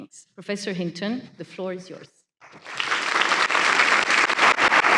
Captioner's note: applause